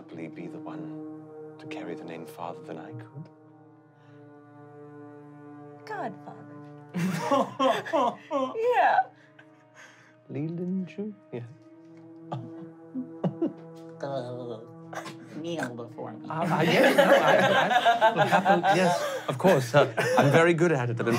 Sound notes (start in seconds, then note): 6.9 laughing; 14.7 baby talk; 16.4 laughing